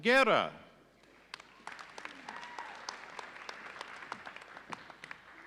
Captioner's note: audience applauding